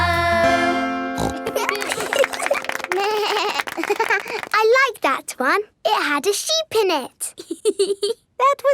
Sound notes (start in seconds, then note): 1.2 snorts; 1.2 laughing; 3.0 bleats and laughs; 7.4 laughs